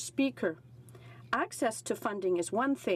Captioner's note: speaking French